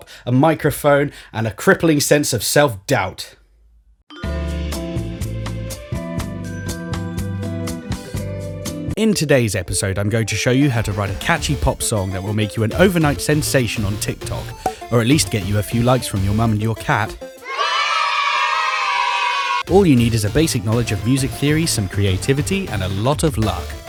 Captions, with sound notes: a microphone, and a crippling sense of self-doubt. In today's episode, I'm going to show you how to write a catchy pop song that will make you an overnight sensation on TikTok. Or at least get you a few likes from your mum and your cat. *kids cheering* All you need is a basic knowledge of music theory, some creativity, and a lot of luck.